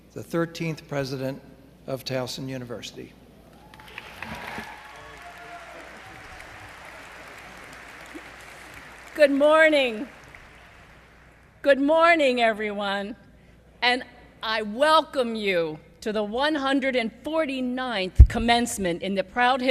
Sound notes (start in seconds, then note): 3.6 applause